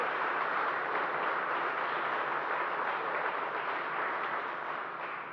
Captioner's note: applause